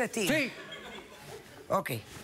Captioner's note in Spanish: risas